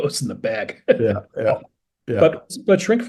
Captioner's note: laugh